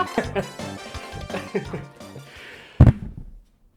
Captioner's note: happy noises